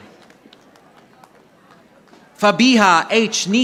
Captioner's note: audience applauding